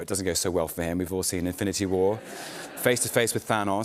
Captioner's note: laughter